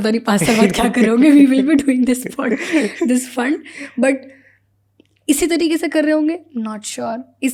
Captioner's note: speaks in Hindi